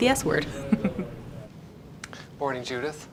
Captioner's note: laughing